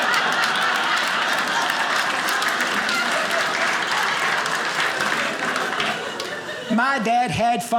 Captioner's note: audience laughing; audience applauding